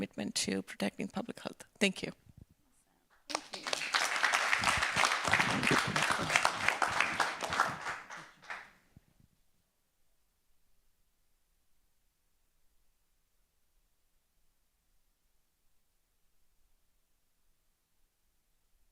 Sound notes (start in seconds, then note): 8.0 applause